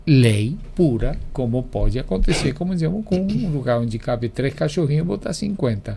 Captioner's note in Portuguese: limpando a garganta